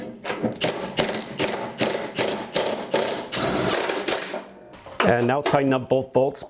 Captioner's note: impact wrench whirring